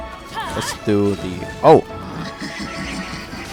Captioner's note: Bennett screams while charging an attack; Abyss Mage laughing as its shield regenerates